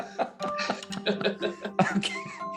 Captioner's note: everyone laughs